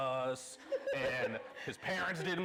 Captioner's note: laughing